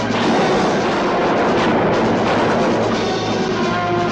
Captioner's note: gun firing